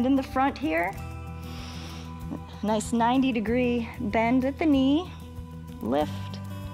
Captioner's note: inhales